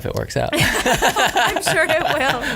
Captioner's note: laughter